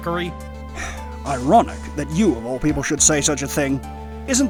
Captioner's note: sigh